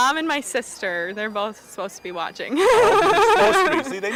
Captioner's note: laughing